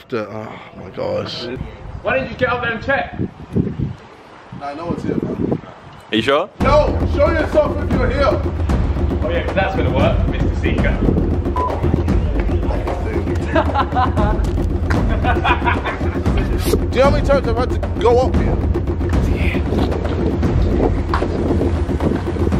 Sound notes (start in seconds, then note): 14.8 laughter; 19.7 intense music